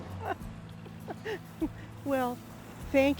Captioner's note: chuckles